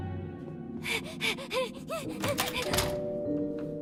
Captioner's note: panting frantically